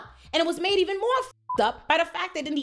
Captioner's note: beep